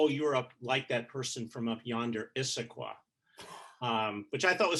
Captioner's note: chuckling